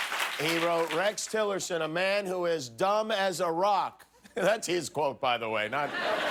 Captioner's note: cheers and applause